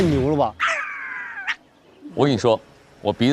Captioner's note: sniffing intensifies